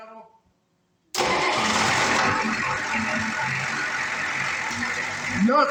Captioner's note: engine starts & idles